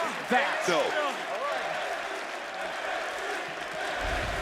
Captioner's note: audience cheering